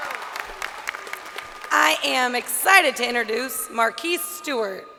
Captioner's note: crowd cheering